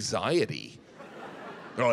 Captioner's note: audience laughing